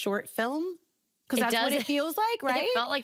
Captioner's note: laughing